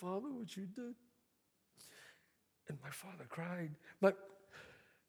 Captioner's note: sniffs